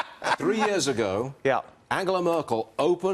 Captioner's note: laughter